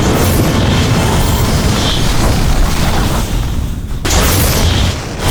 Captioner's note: sparks crackle; thunder claps; whooshing; thunder claps